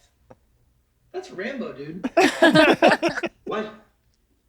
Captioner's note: they laugh